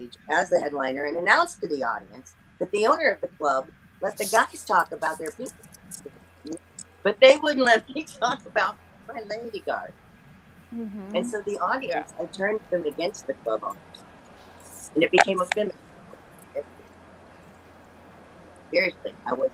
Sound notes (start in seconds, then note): 7.7 laughs